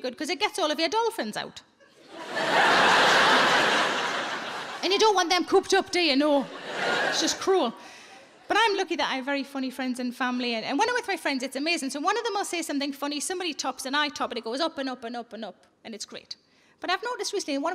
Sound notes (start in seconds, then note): 1.9 audience laughing